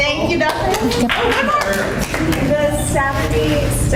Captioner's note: applauding